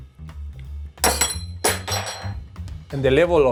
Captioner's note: spoon clangs